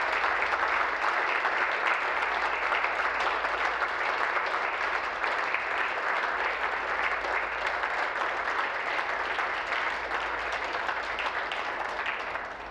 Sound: applause

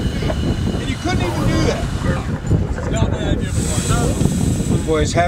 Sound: passengers arguing

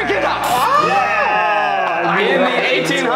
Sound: cheering

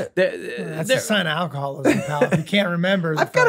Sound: rob laughs

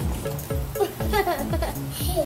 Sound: laughs

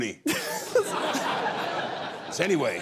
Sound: laughter

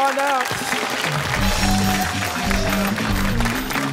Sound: applause

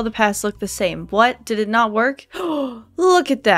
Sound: gasp

